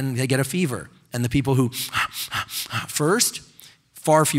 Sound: deeply breathing

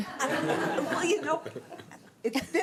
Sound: laughter

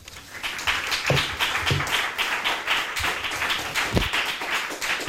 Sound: audience applauding

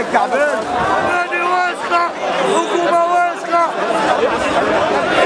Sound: chants

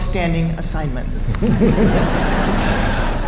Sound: laughter

